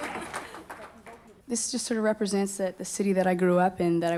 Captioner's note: applause